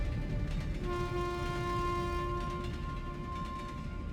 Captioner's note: a train horn echoes in the distance